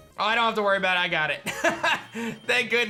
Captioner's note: laughs